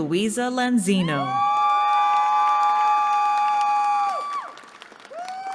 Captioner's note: cheering